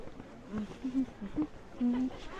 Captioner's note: hums